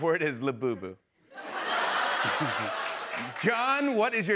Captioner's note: laughter